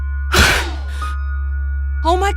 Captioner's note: gasp